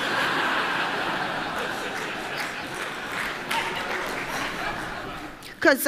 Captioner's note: Applause; 掌聲; Laughter; 笑聲